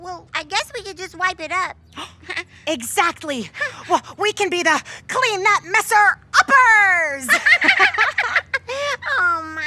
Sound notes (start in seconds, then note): 2.1 gasping; 7.2 laughing